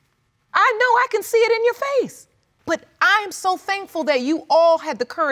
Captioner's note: none